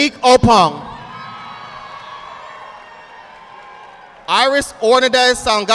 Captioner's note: audience applauding